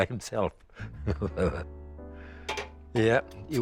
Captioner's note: chuckles